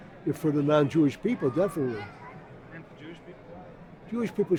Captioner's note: voiceover